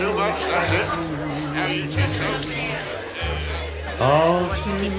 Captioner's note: indistinct chatter